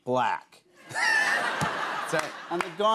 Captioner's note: laughter